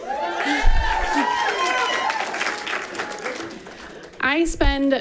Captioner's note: people cheering and clapping